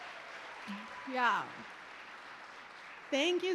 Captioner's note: applause